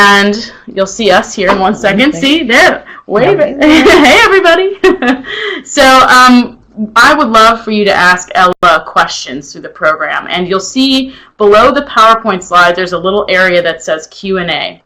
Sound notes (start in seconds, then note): 5.5 chuckles